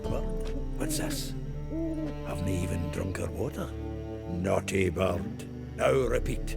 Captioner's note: hoots